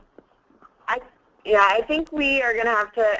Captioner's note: voiceover